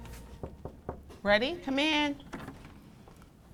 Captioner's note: knocking